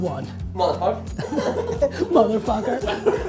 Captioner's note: all laugh